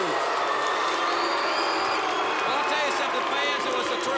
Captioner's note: crowd cheering